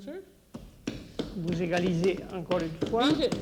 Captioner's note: speaking French